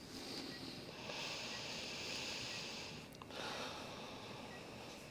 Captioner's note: both sighing over beeping monitors